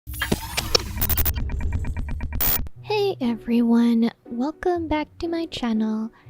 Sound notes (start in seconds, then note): 0.1 glitching sounds